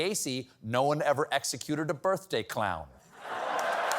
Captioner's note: applause; laughter